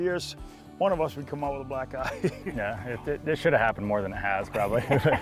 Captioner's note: laughs